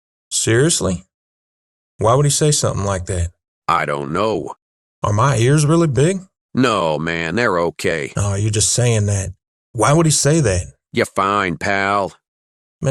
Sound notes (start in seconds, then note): none